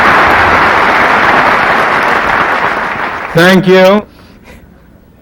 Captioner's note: applause